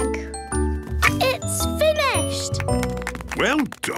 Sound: applause

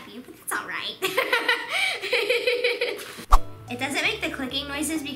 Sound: laughing

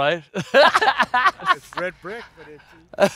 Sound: laughs

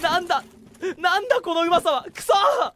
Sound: sobs

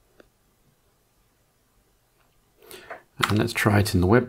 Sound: blank Audio

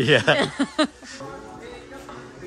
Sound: girlfriend laughs; christmas music plays

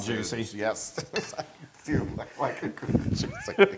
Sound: laugh

